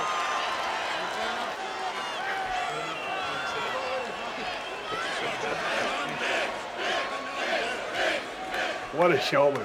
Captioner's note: applause